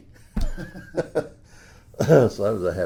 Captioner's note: laughs